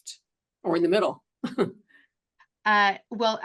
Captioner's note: chuckles